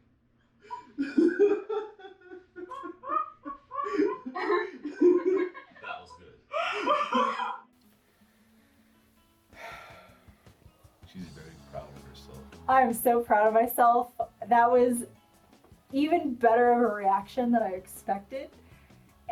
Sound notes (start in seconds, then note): 0.7 laughs; 9.5 sighs